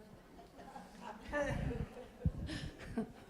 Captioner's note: laughs